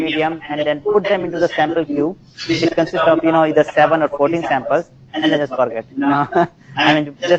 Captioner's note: laugh